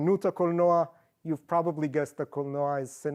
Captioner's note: non english; non english